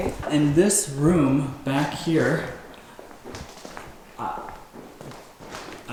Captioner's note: footsteps